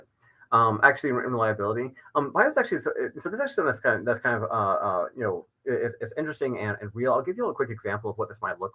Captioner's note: verbal stutters